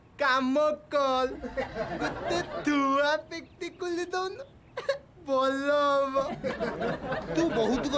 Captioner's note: laugh